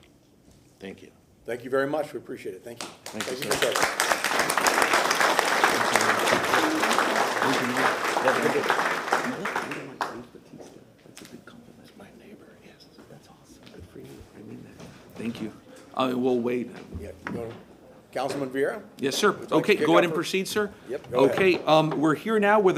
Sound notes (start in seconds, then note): 6.4 applause